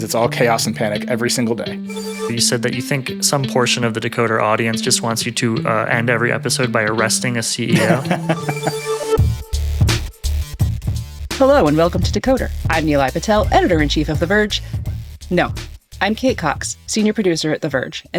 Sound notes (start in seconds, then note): 7.7 laughing; 7.7 upbeat music